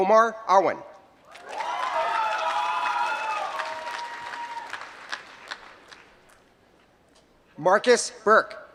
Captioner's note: applause